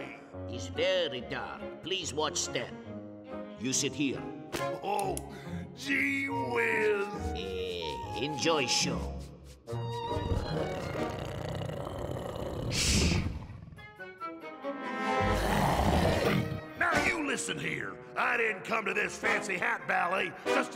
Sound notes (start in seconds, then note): 9.3 whimsical music; 10.3 low growling; 15.3 tiger growling